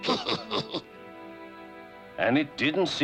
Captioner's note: snickers